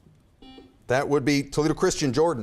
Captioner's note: buzzer beeps